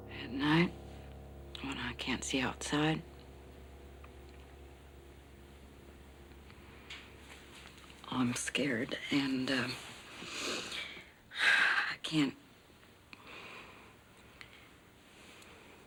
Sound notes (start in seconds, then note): 10.0 exhales